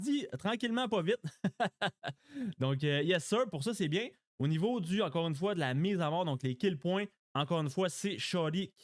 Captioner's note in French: rires